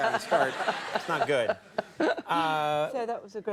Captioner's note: Helen laughs